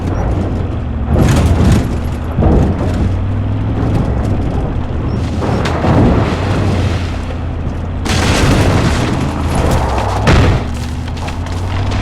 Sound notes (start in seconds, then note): 1.2 gun firing